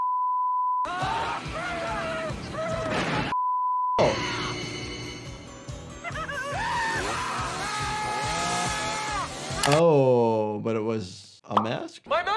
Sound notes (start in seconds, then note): 0.2 beep; 0.8 people screaming; 3.3 beep; 6.1 people screaming